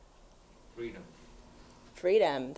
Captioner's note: voiceover